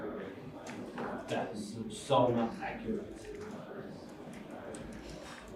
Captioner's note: chatter